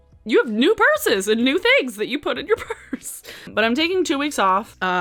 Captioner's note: laughs